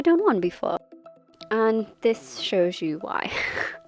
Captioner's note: lols